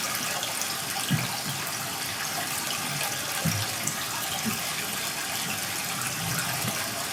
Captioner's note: water trickling continues